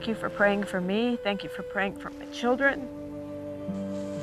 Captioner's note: voice breaking